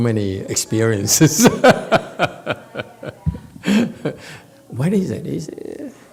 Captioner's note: laughs